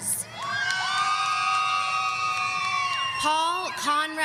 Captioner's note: audience cheering